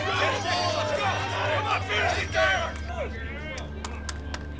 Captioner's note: crowd cheers